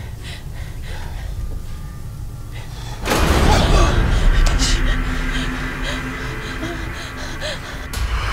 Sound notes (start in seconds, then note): 2.7 banging; 3.0 dramatic music; 4.5 hushes